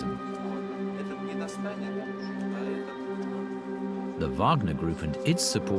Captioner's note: people chatter indistinctly